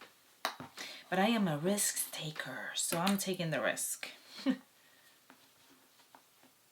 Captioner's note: giggles